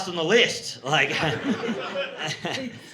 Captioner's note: audience laughing